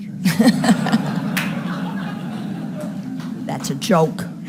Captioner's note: audience laughing